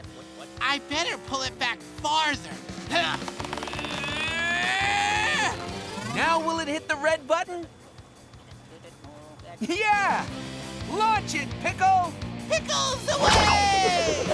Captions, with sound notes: I'd better pull it back farther. [grunting] Now will it hit the red button? Yeah. Launch it, Pickle! Pickles away!